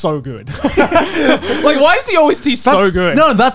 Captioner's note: laughs